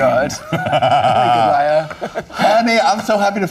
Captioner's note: laughing